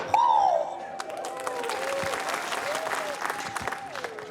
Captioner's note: applause